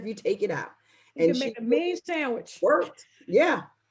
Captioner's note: laughing